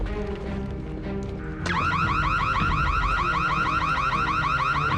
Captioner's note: alarm sirens wailing